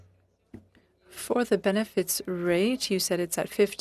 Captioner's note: speaking French